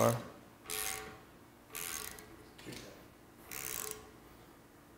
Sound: tap screeching

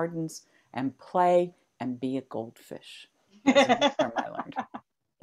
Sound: laughs

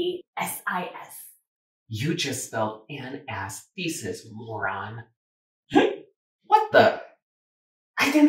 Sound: hiccup

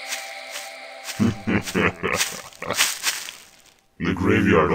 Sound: evil laugh

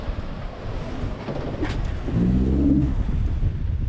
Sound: creaking; water splashing

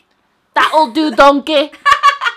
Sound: laughing

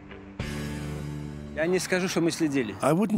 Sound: speaking German

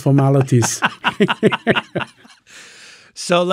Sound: laughing

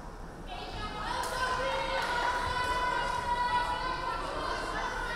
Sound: crowd cheering

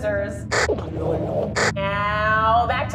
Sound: alien language

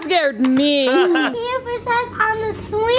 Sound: laughing

